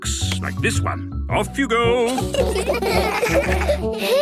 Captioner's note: laughter